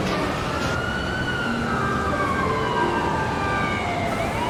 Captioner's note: siren blaring